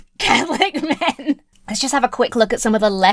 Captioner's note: laughs